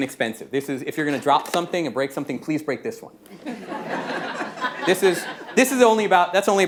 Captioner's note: laughter